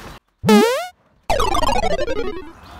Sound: video game sound

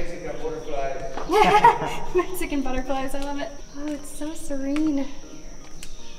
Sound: laughter

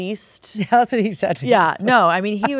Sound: laughing

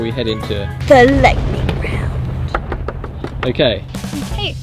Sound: thunder

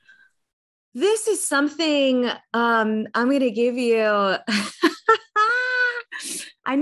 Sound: laughs

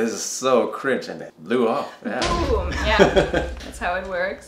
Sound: explosion

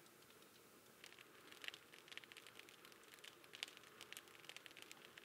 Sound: fire crackling

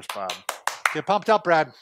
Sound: applauds

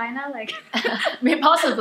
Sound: laughter

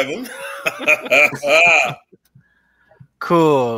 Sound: laughs

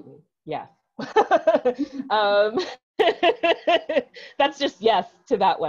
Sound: laughs

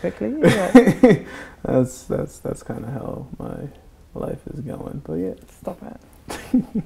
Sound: laughs; laughs

